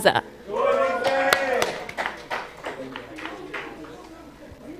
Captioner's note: cheering